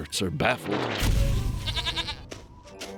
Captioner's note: bleats